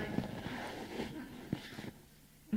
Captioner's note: laughter